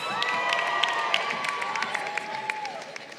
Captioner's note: crowd cheering